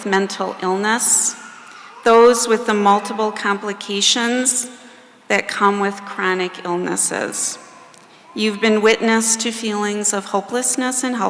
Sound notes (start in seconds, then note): none